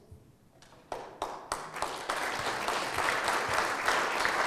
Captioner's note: audience clapping